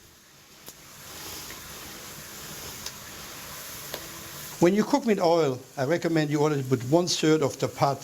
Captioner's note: sizzling